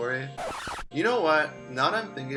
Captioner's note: record scratch